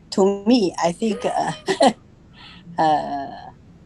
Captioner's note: both laugh